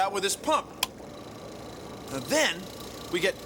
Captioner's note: clicks, motor hums